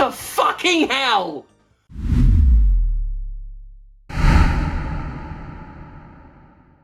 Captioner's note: whispered loud and slowly